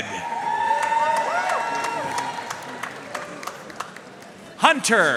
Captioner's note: audience cheering and applauding